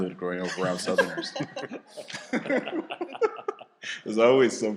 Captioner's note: laughter